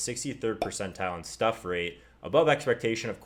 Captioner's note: pop